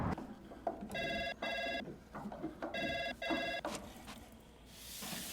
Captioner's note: phone ringing